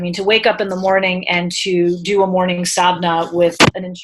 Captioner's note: speaking in foreign language